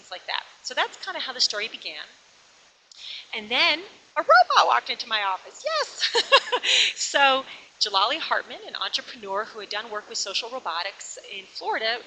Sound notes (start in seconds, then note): 5.9 laughs